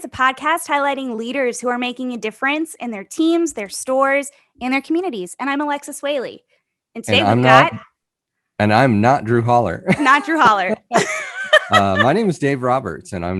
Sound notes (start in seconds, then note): 9.4 chuckles; 9.5 laughs